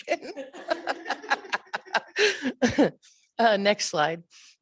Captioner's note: chuckling